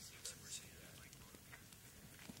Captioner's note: quiet conversations